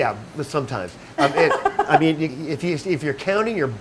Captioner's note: laughing